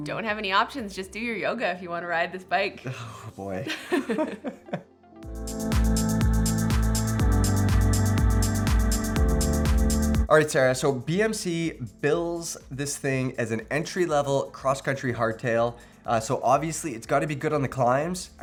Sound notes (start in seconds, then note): 3.4 laughs; 5.1 gentle music